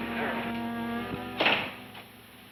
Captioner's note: door clicks